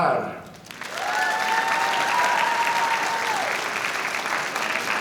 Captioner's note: audience applauding